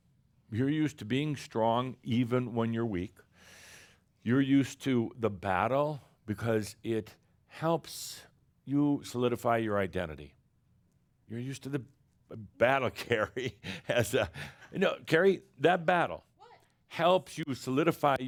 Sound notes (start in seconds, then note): 12.9 chuckles